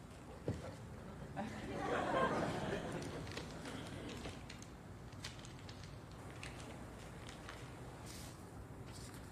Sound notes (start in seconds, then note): 1.3 audience laughs